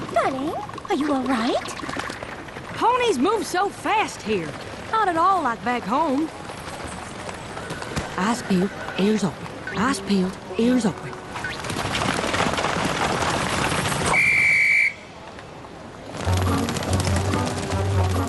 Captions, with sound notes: Darling, are you all right? Ponies move so fast here. Not at all like back home. Eyes peeled, ears open. Eyes peeled, ears open. [police whistle blows]